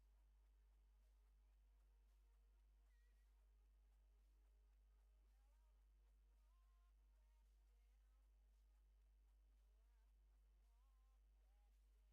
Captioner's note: cheering